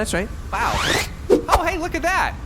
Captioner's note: unzipping sounds, woodsaber whooshes